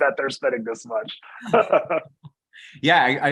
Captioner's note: laughs